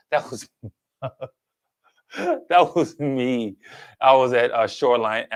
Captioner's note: chuckles